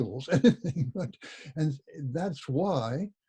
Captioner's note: laughs